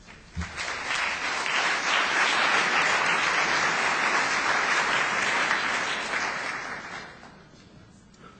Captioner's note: applause